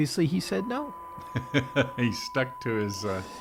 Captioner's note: laughs